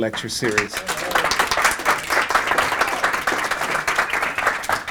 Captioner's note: audience applauding